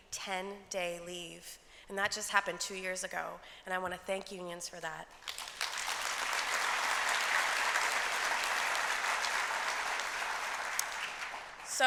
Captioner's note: applause